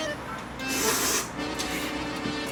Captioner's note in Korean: 후루룹